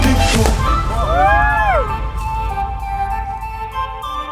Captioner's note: everyone cheering